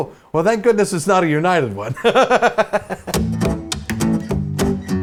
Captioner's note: laughs